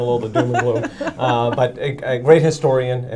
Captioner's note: laughing